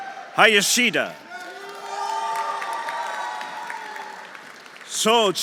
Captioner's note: audience cheering; audience applauding